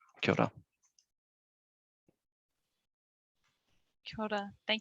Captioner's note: speaking in foreign language